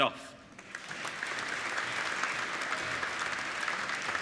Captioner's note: applauding